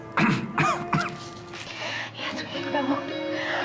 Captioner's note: coughs